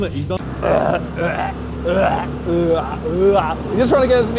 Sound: Simon retching

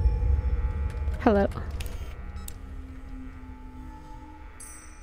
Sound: spooky sound

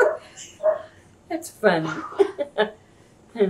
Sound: laughs

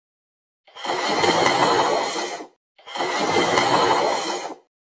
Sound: slurping

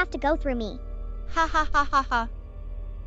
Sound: dr. vanessa chuckles

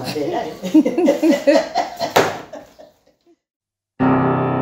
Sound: women laughing

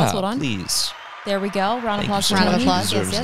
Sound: crowd applauds

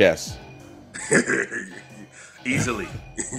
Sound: laugh

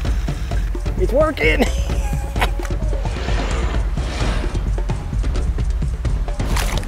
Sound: laughs

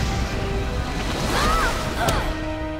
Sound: yelling

